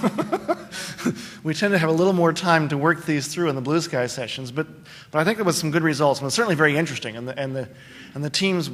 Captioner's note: laughter